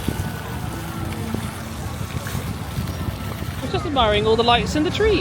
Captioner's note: water splattering